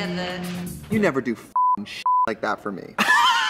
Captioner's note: beep